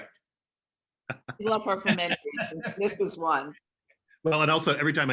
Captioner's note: speaking faintly